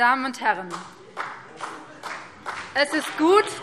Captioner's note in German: Beifall BÜNDNIS 90/DIE GRÜNEN